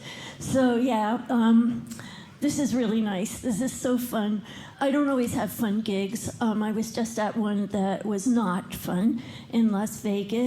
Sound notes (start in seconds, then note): none